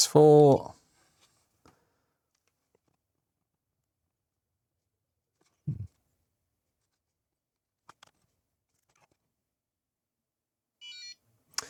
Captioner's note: silence